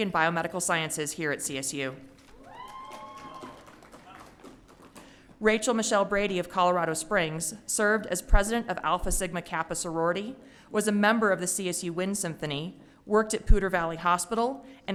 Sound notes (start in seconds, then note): 2.3 audience cheering